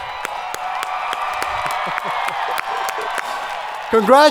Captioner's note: audience cheering